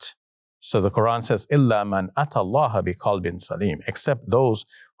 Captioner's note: speaking in foreign language